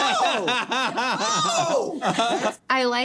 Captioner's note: laughing